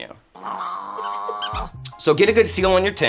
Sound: dog growls

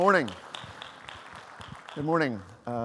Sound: audience applauding

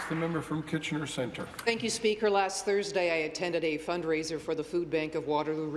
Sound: some Applause

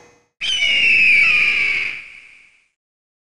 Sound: eagle screeches

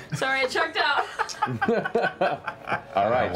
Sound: laughter

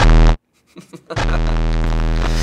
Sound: chuckles

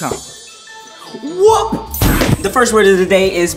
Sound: upbeat music; poof

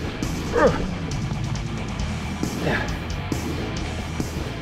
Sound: grunting

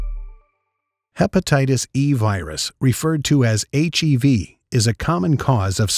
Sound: voiceover

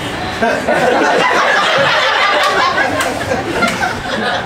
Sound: audience laughs

